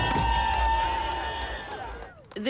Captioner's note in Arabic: هتاف